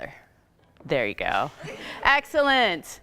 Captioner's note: laughing